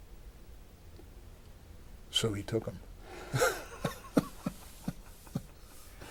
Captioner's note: laughter